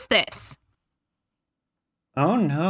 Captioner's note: silence